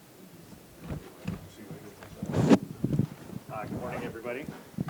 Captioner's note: faintly speaking